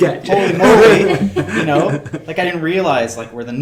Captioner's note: laughing